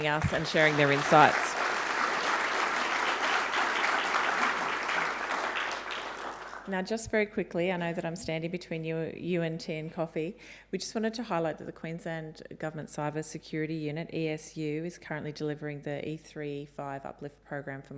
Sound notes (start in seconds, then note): 1.6 audience clapping